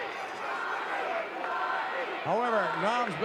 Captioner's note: audience cheering